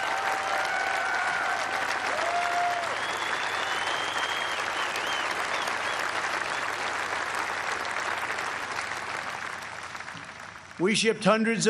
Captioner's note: applause